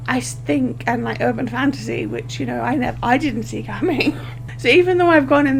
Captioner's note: laughs